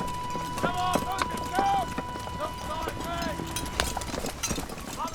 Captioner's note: distant shouting